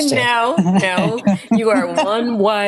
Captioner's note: laughter